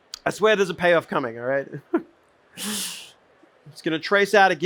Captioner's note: chuckles